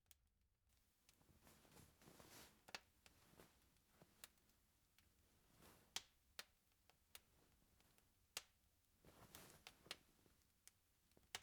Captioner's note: rustling